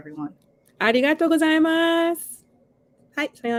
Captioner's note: speaking japanese